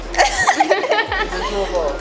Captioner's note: laughter